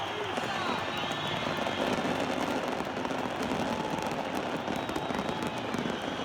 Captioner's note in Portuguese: Explosões - fogos de artifício